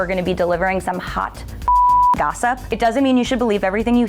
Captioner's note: beep